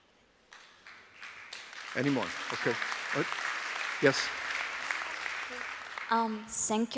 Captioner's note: applause